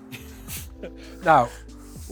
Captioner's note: both laughing